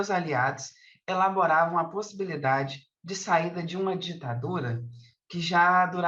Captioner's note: continues speaking in Portuguese